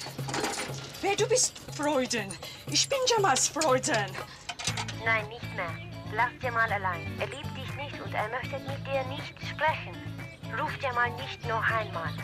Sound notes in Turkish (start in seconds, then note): 0.7 Almanca konuşma; 4.4 Kadın - Almanca konuşma